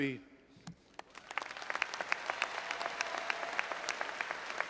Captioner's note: audience applauding